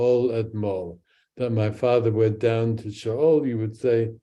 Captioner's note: speaks in Hebrew